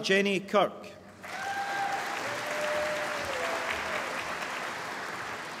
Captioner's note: applause